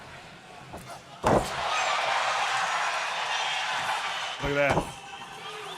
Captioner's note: applause